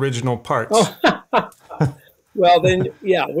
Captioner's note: both laugh